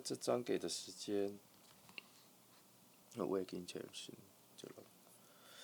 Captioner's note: gasp